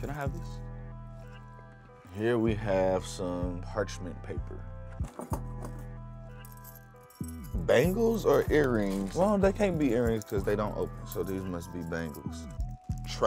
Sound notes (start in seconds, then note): 6.3 bangles jingle